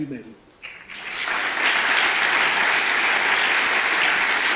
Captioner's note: audience applause